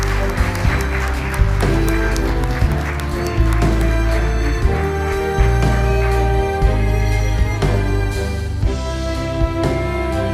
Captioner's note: applause